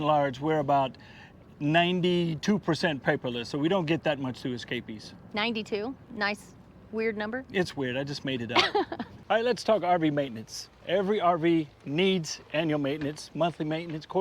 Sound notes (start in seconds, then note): 8.5 laughs